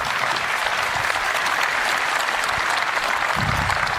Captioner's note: applause